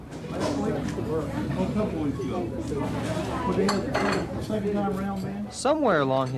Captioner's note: customers chattering; dishes clanking